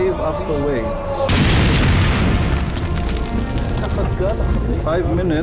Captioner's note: explosions booming